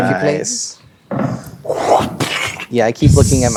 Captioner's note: imitates axe smashing